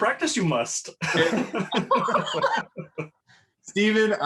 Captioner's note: laughs